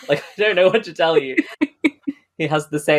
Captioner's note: laughs